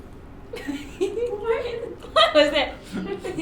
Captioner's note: laughs